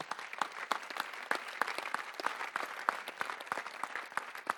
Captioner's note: audience applauding